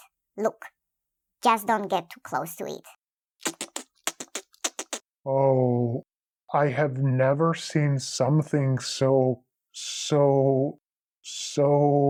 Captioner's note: alien sounds